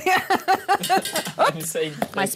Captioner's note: laughing